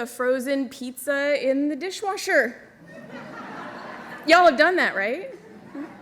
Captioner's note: laughter